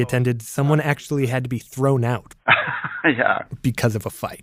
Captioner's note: laughs